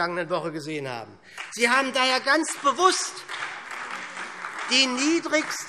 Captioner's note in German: Beifall SPD